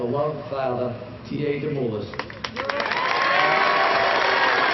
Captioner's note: cheers and applause